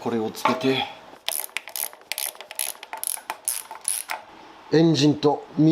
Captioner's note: working sound